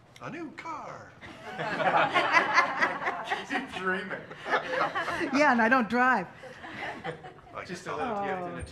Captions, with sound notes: A new car! [Laughing] Keep dreaming. Yeah, and I don't drive. Just a little gift and a token.